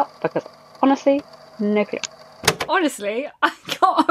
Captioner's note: tape recorder clicks off; laughing